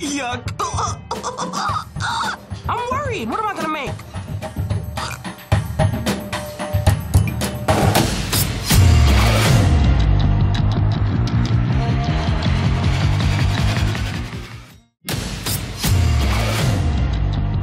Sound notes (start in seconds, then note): 5.0 gags